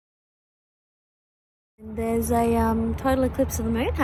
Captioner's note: none